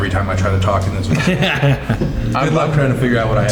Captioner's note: laughing